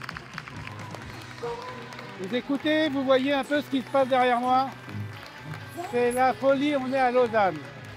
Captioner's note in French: Applaudissements